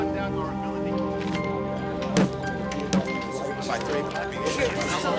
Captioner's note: people chattering